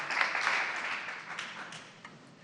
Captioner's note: applause